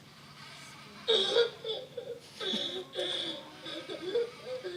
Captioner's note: Nao sobbing